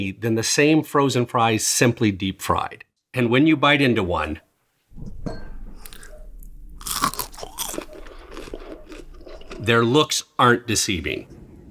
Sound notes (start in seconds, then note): 5.7 french fry crunching